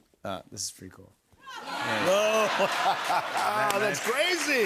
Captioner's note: laughter